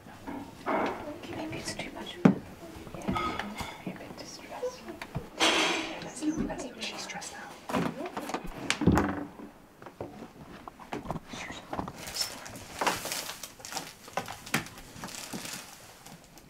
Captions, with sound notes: [Whispering] Maybe it's too much... [Whispering] ...be a bit distressed. [Whispering] ...she’s stressed out.